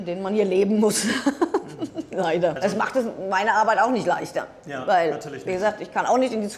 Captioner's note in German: gelächter